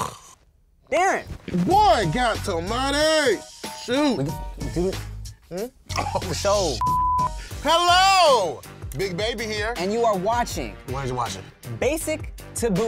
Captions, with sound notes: - Boy count some money, shoot. Oh (beep). Hello, big baby here. - And you are watching, - Why aren't you watching? - Basic to bougie. - Come on boy!